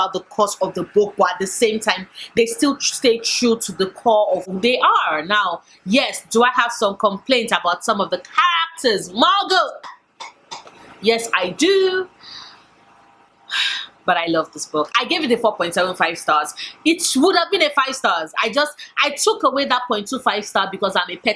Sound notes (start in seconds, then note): 10.2 coughs